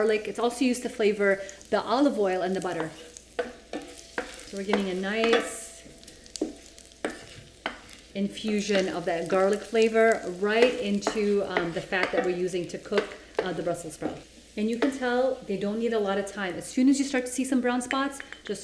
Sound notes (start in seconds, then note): 3.1 stirring garlic